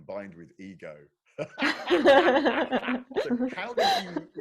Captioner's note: laughing